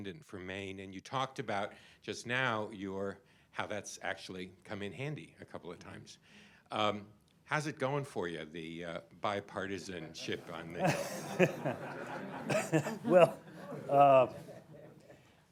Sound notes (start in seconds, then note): 10.0 laughter